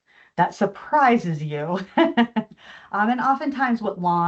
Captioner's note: chuckles